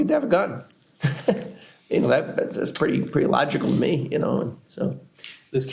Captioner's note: laughs